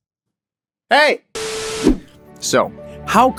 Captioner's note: static noise